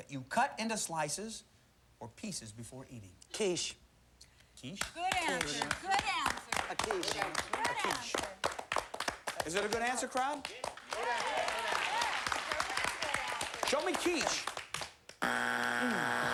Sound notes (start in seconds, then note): 11.1 cheers and applause